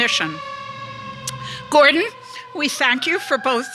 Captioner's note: police siren rings